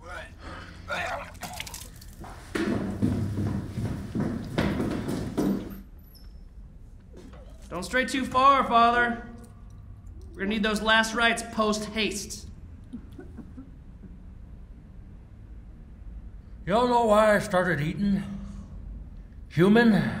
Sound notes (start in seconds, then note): 0.9 chaplain retching; 4.5 door creaking